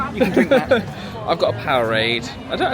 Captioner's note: laughs